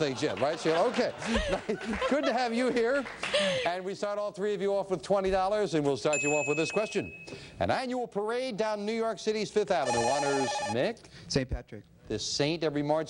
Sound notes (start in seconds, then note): 9.8 beeping